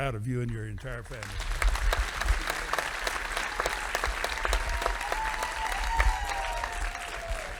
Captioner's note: audience applauding